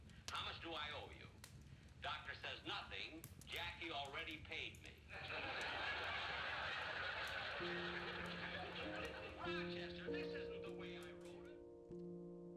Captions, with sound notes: How much do I owe you? Doctor says, "Nothing, "Jackie already paid me." [audience laughing] [pensive music]